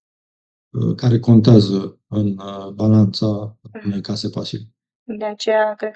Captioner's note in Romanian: voce dreasă